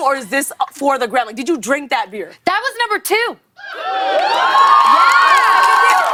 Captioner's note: cheers and applause